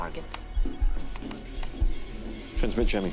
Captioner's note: keys clacking